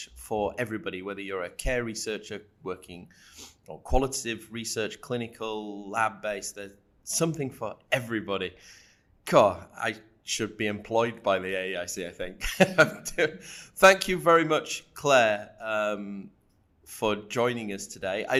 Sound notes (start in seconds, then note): 12.5 laughing